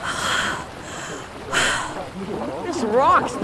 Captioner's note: voices approaching